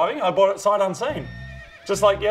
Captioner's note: horse braying sound fx